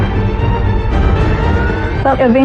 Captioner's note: siren wawailing